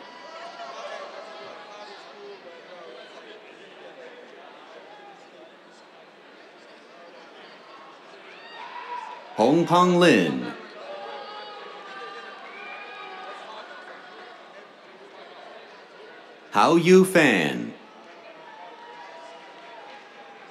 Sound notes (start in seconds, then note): 0.0 cheers; 10.7 cheers, whistles; 16.6 cheers, applause